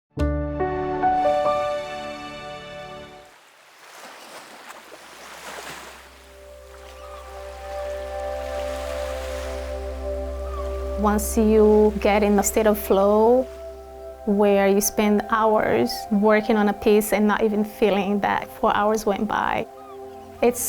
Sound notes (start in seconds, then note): 0.1 soft music; 4.4 waves rumbling; 7.5 birds chirping